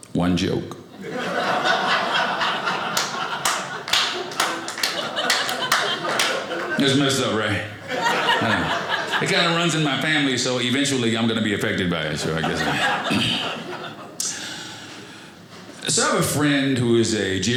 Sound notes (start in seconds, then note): 1.2 audience laughing; 2.9 one person applauding; 12.0 audience laughing